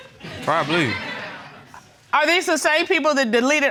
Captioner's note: audience laughing